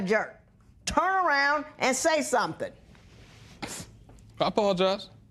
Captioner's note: sniffles